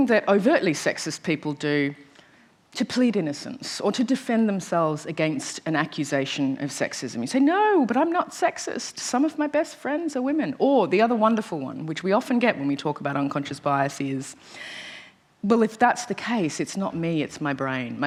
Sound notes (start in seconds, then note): none